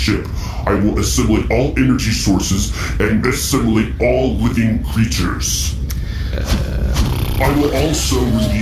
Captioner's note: flapping